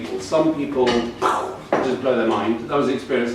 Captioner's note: pew